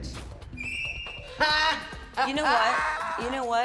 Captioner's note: laughs